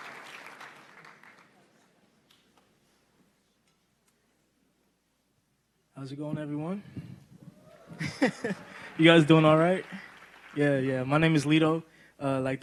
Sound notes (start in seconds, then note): 2.4 applause